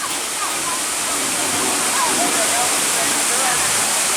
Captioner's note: water crashing